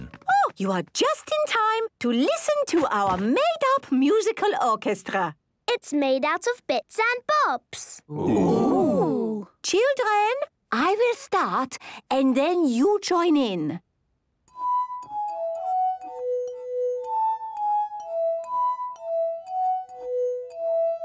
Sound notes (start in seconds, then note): 14.5 glasses vibrate to the tune